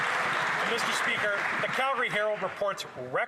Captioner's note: cheers & Applause